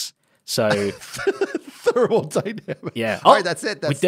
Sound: laughs

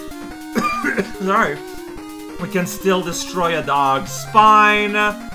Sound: cough

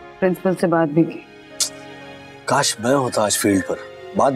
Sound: tsks

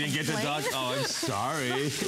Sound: laughter

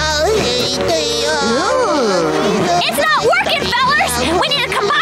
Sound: groaning

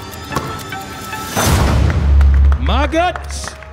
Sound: ball bouncing; ball dunking; hands clapping

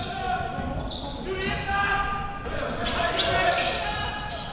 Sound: crowd cheering

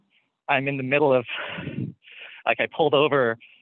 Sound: laughing

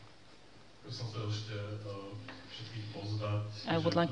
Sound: non-english

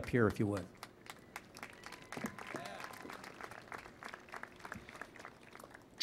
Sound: applause

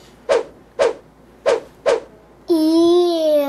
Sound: whooshing sound effect

